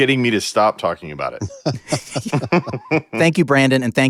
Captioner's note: laughter